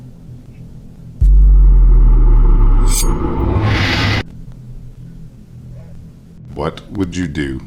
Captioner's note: brooding music; blade swishes